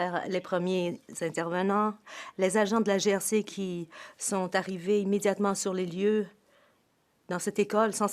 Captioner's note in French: voix de l'interprète